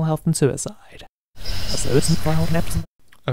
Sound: rewind sound

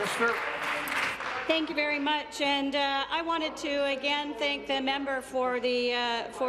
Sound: applause

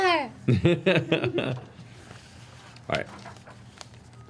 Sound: laughs

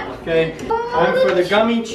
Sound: laughing

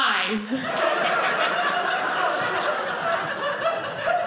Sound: audience laughing

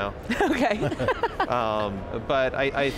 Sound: laughing

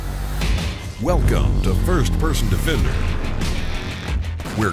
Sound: rock music; voiceover

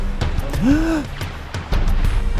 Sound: gasps

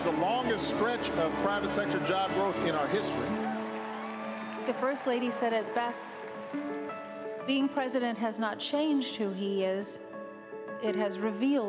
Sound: cheers & applause

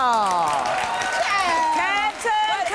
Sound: applause

